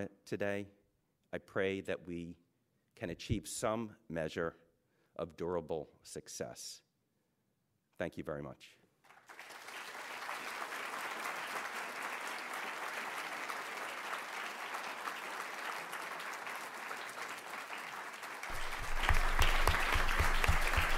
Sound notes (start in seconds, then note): 9.2 applause